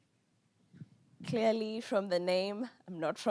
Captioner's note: with Kenyan accent